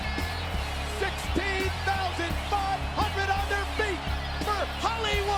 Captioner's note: crowd cheering